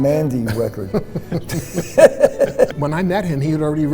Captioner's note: laughing